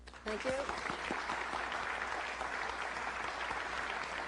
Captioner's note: applause